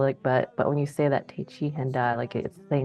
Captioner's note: speaks in Dakota